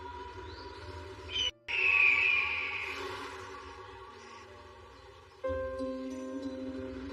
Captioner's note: bird screeching